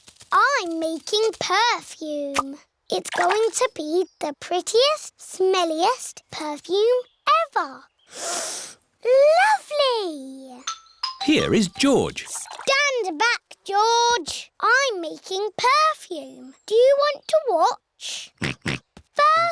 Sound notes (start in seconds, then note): 8.1 sniffs; 18.6 snorts